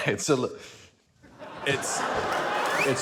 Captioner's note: chuckles